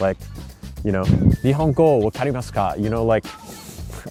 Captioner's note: speaking Japanese